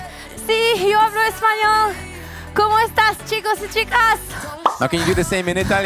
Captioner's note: in spanish